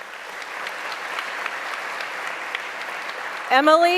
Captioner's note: applause